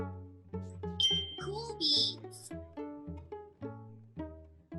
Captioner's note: bell dings